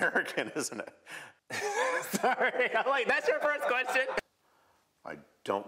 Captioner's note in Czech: francouzsky; smích